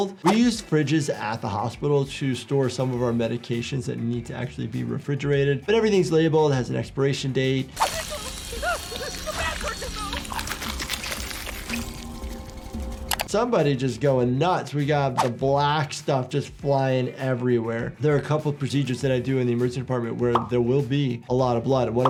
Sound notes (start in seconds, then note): 9.0 yelling; 10.3 liquid spurting